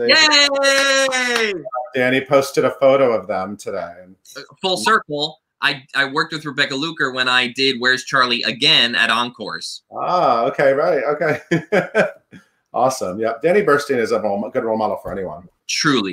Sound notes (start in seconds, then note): 0.6 clapping; 11.3 laughing